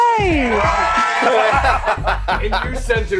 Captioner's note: laughing